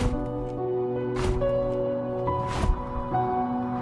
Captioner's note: wings flapping